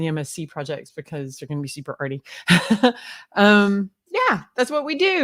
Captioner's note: laughs